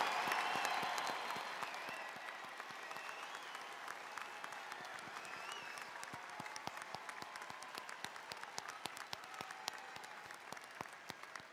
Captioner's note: cheers and applause